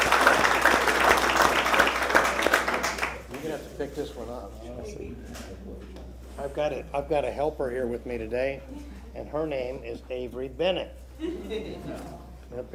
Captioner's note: applause